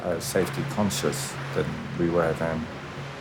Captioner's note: waves rushing